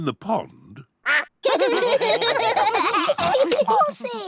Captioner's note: all laugh